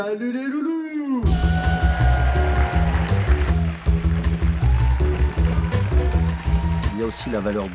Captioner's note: crowd cheering and clapping